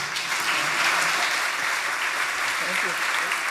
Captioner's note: audience applauding